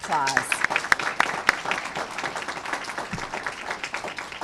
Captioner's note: applause